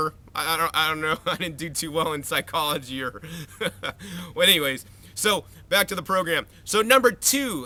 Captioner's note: laugh